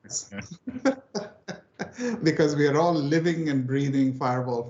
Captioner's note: laughs